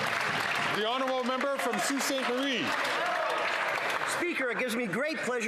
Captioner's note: some Applause